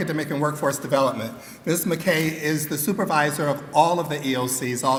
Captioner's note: none